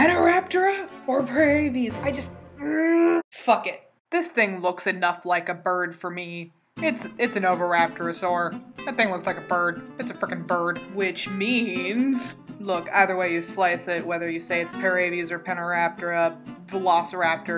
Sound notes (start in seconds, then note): 2.3 loud angry groan of science